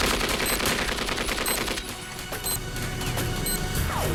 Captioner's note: explosives beeping